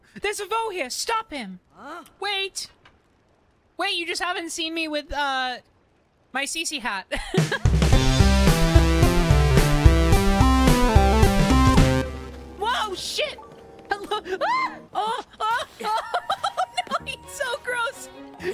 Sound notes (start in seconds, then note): 7.1 laughter; 14.3 frightened Scream; 15.0 laughter